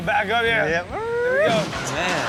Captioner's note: makes car sounds